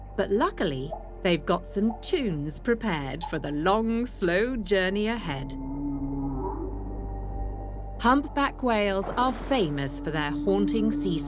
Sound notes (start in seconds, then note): 5.6 humpbacks vocalising